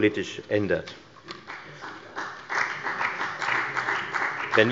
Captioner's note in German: Beifall bei der FDP